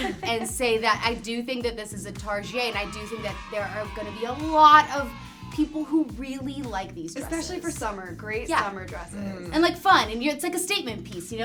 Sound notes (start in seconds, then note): 0.0 laugh; 2.3 crowd cheers